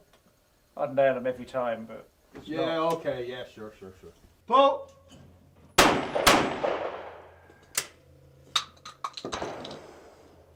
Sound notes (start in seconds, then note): 5.7 gun shooting